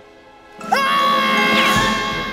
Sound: screaming

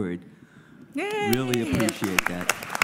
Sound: applause

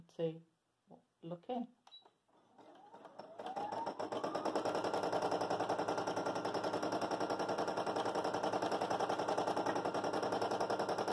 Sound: sewing machine running

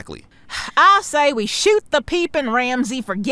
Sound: sighing

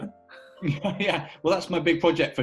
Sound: laughs

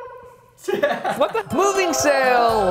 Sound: laughing

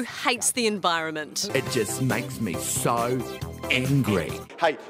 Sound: mocking accent

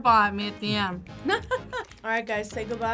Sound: React laughs

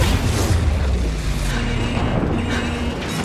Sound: alarm buzzing

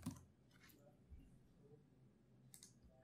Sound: typing

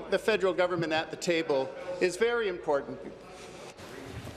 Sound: applause

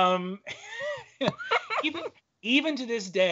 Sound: laughing

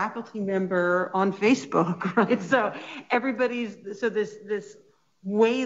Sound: chuckling

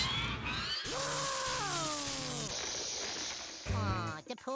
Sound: screaming

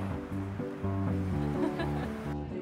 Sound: laughter

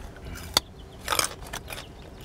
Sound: chewing

